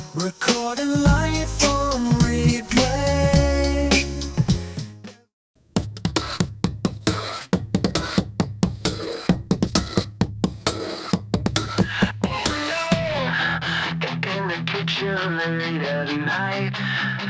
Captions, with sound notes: Recording life on replay. [Drumming on table with whisk and dish brush] In the kitchen late at night.